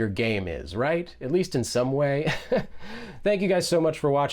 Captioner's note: laughs